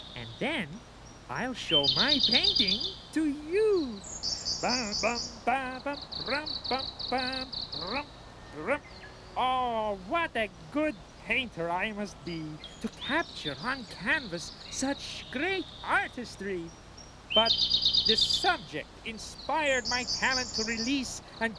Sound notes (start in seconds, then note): 4.6 humming